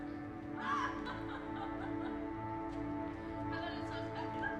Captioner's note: laughs